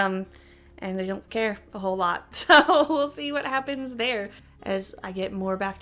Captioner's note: chuckle